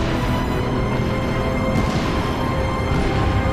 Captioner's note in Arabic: تنفجر أشعة الليزر